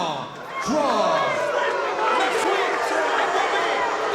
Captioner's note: audience booing